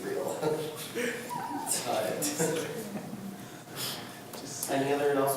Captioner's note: several people laugh